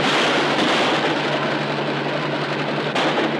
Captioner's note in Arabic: طلقات نارية